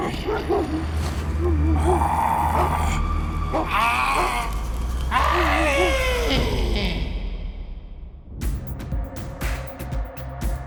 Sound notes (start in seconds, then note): 1.1 Ponaturi screeching